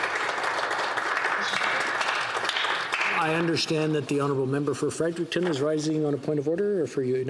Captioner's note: some Applause